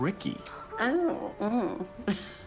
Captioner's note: Tipipper chuckles